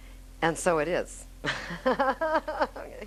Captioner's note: laughing